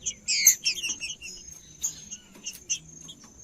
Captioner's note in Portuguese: trinca ferro cantando